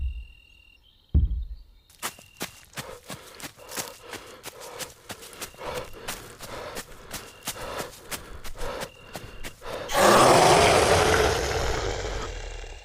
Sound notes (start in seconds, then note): 0.2 footsteps; 6.4 breathing; 9.7 growl